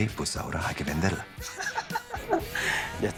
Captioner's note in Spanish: Risas